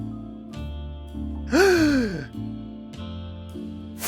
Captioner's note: gasp